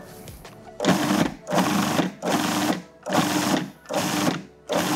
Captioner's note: food processor pulsing